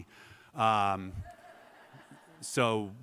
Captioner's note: laughter